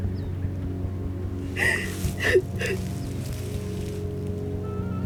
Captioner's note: sobbing